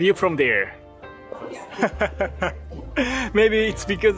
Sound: chuckle

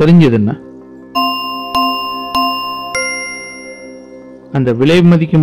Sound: the clock rings

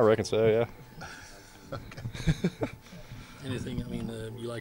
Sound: laughing

